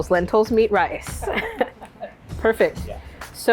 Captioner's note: chef laughs